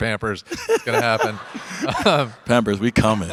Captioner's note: Dwyane and audience laugh